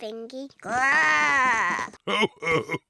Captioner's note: oinks; growls; chuckles